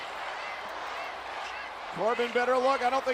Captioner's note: crowd chanting continues